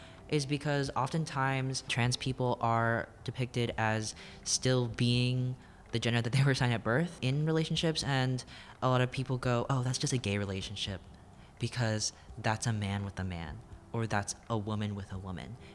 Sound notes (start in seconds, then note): none